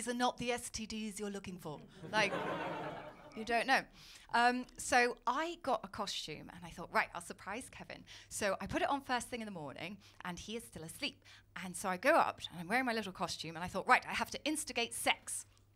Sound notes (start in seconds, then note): 2.0 laughter